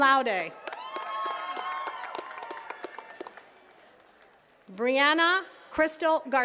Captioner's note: attendees cheering and clapping